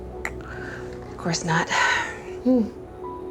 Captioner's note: clicks tongue